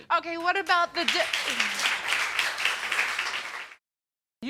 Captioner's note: audience applauds